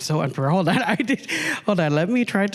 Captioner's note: laughing